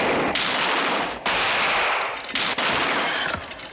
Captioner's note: steady gunfire continues